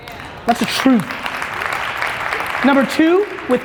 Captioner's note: audience applauds